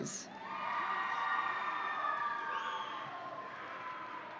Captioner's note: audience cheering